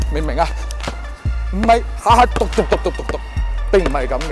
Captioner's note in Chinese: 模仿拍球的聲音